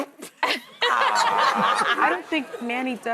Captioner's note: laughter